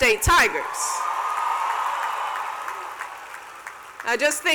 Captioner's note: cheers and applause